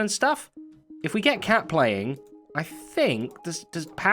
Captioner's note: disc plays